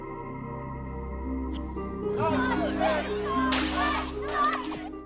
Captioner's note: shouting